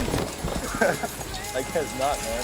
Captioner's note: thud; laughs